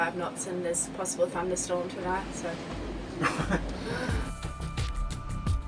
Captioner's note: laughs; exciting music